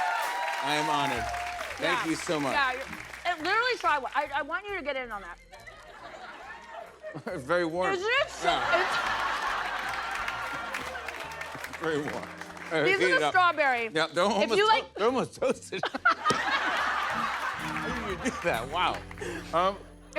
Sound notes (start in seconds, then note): 5.5 laughter; 15.5 laughter